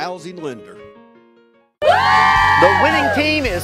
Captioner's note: cheering